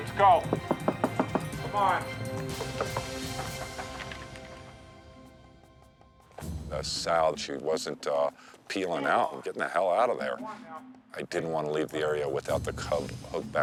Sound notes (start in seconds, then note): 0.3 knocking; 4.1 claws scratching